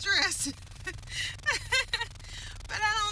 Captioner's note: laughter